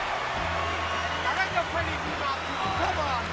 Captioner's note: speaking French